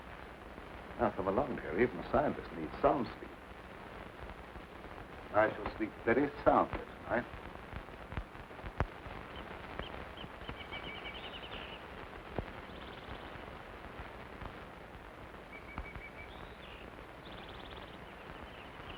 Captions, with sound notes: Now come along dear even a scientist needs some sleep. I shall sleep very soundly tonight. (birds chirping)